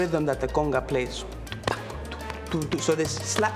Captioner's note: mimicks conga beat